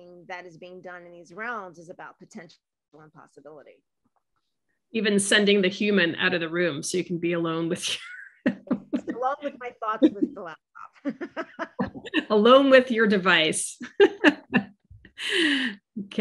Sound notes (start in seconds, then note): 8.2 laughs; 10.8 laughs; 15.2 laughs